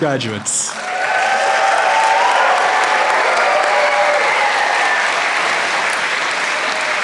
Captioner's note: applause